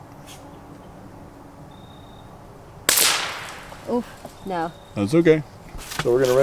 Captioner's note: suppressed gunshot